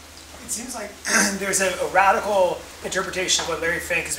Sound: cough

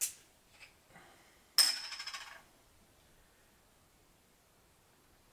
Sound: bottle cap clatters

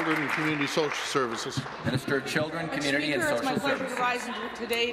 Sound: applause

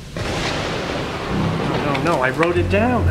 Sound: thunder claps

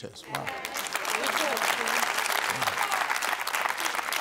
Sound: applause

